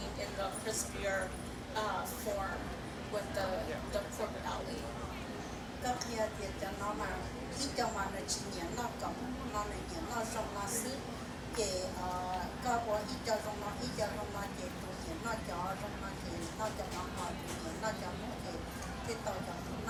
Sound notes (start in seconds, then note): 6.1 speaking foreign language